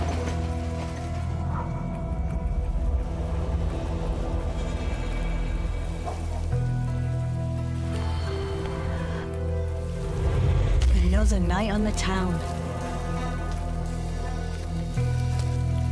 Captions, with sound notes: (dramatic music) (air whooshing) (woman sighs) Another night on the town.